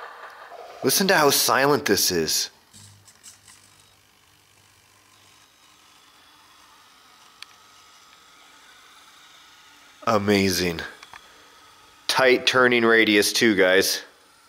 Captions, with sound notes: Listen to how silent this is. (quiet turning) Amazing. Tight turning radius, too, guys.